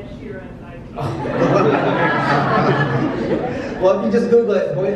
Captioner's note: audience laughs